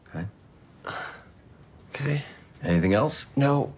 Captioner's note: sighs